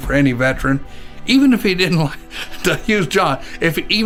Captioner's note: chuckles